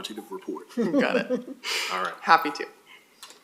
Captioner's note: laugh